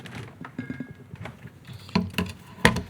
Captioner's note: object rattles; device thuds